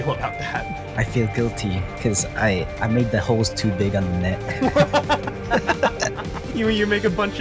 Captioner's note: laugh